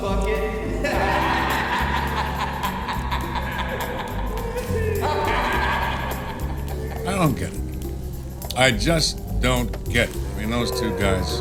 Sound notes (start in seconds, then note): 0.0 sighs; 0.7 both laugh